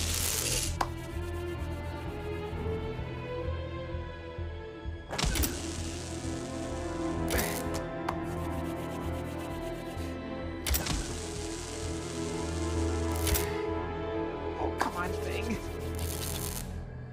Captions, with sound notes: (electricity crackles) (dramatic music) (electricity crackles) Oh, come on, Thing.